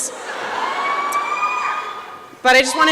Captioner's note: laughter